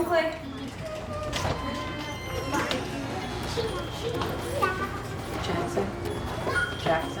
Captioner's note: collective chatter